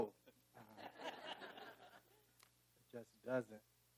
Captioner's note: audience laughing